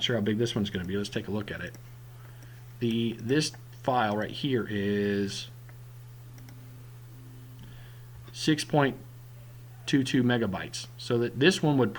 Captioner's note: click